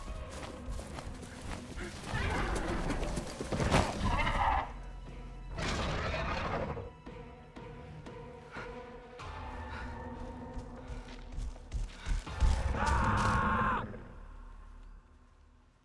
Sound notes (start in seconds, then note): 0.5 dinosaur growls; 7.7 climactic music; 12.8 man screams